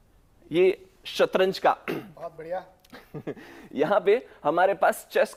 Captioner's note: clears throat